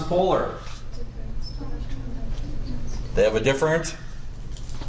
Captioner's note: background chatter